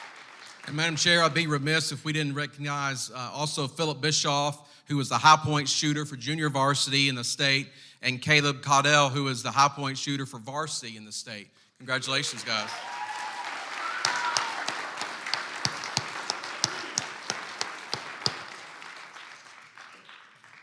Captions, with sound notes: - And Madam Chair, I would be remise if we didn't recognize also Phillip Bishof who was the high point shooter for Junior Varsity in the state and Caleb Caudel who is the high point shooter for varsity in the state. Congratulations guys. (clapping and cheering)